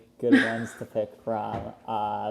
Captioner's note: laughs